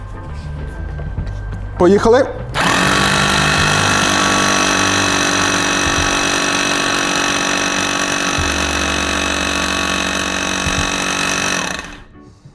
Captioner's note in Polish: dźwięk młotowiertarki